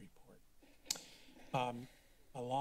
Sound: clicks tongue

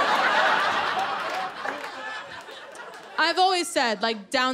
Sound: laughter

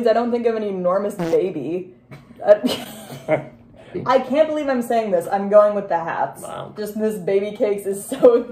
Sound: fart; both laughing

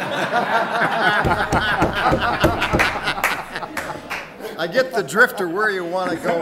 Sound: audience guffawing

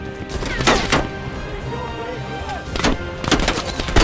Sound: gunshots

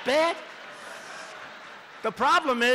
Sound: laughter

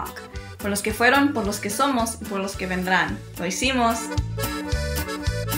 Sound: speaks in foreign language

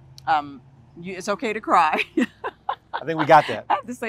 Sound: laughter

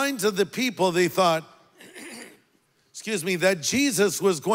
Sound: clears throat

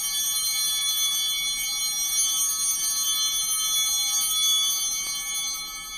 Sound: bell ringing; bell continues ringing

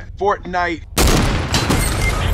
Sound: gunshot; teammate down siren; headshot sound/cash register

